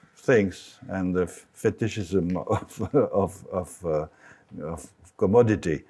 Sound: chuckles

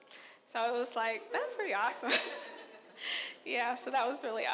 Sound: laughs

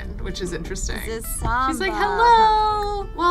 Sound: none

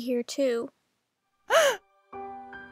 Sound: mom gasps

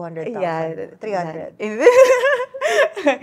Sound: laughs

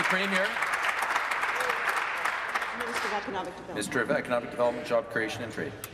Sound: applause

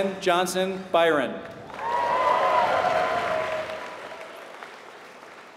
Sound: applause

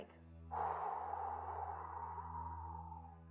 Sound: sighs

